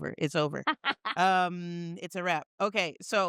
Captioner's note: laughing